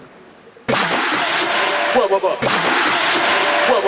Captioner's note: Tembakan pistol air + 1; duk!